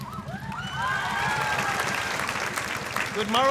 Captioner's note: audience cheering, applause